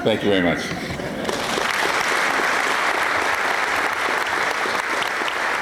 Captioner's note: applause